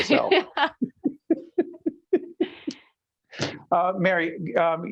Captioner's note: laughing